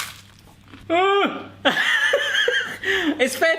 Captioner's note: laughs